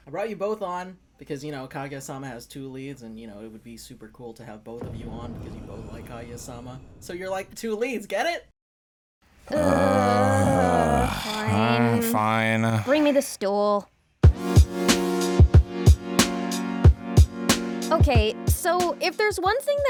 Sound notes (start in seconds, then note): 9.4 groans; 14.3 funky music